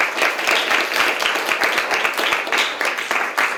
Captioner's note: applause